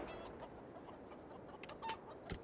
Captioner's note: chickens clucking